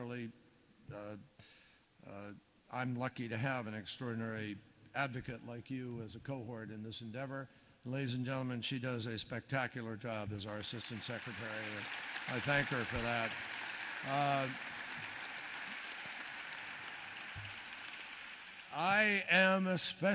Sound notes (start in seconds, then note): 14.8 applause